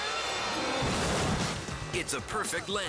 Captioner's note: snowmobile thudding